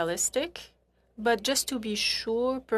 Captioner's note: speaking French